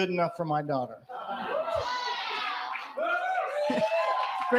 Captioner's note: cheers & applause